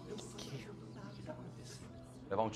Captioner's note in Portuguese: Crô, ainda falando baixo